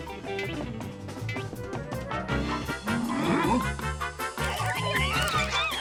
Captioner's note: squirrels squealing